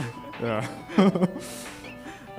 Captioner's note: laughs